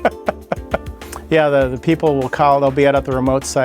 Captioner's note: grins, laughs